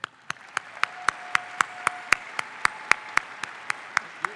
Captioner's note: audience applauds